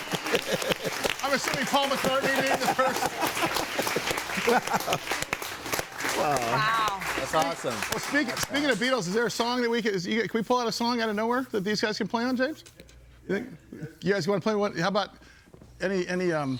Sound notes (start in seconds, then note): 0.2 crowd applauding; 3.7 crowd applauding